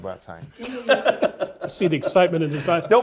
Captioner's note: laugh